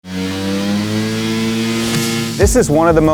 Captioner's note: engine revving